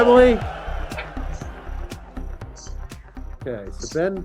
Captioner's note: bell ringing